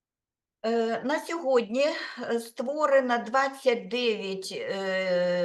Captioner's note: speaking Ukrainian